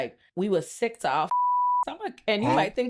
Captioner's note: beep